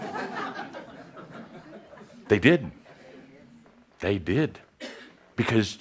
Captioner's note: laughter